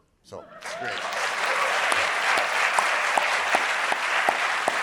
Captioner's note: audience applauding